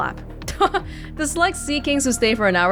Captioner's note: chuckles